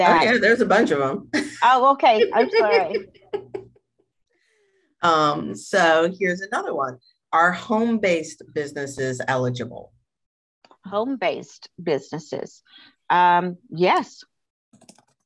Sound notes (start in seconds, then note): 2.1 chuckles; 2.1 laughs